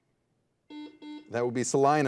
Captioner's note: buzzer dings